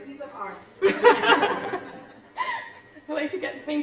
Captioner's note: laughter